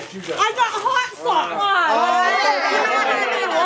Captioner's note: laughs